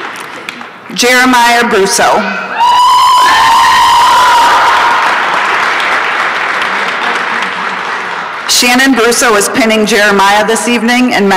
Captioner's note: applause and cheering